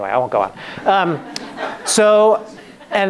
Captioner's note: laughing